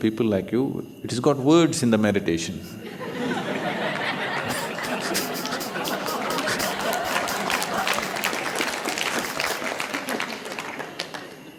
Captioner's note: laughter/Applause